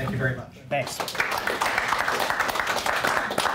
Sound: applause

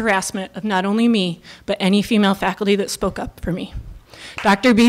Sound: applause

